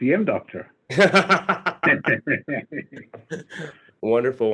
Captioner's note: laughing